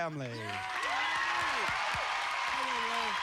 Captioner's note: cheers and applause